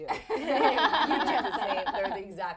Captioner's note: laughing